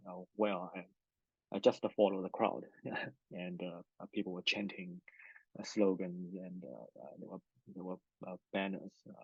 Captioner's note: laughs